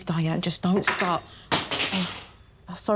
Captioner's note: fork clattering